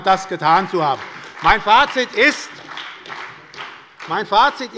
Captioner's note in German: Beifall bei der SPD und bei Abgeordneten der FDP